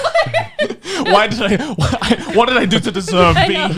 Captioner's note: laughing